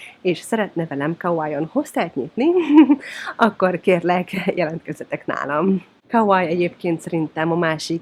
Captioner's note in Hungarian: nevetés